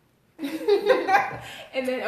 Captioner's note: laughter